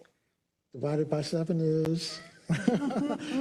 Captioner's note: laugh